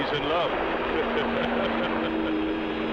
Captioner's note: laughing